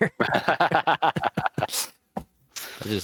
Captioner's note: laughing